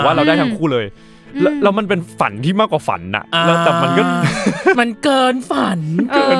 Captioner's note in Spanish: risas